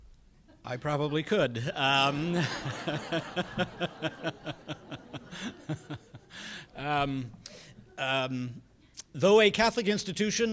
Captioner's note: laughter